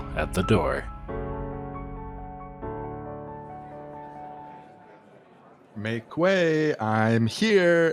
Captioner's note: we hear the background sounds of a crowded hall